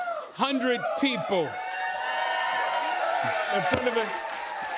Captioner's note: cheers and applause